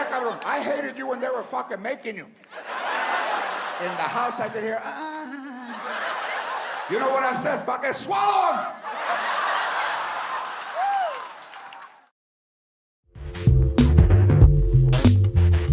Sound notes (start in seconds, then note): 5.3 moans; 8.6 audience laughs